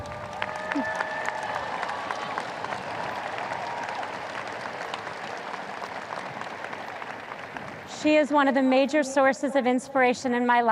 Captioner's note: audience cheers